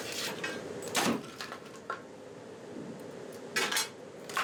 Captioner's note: ore crashing; bar clanging